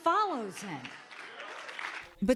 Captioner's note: applause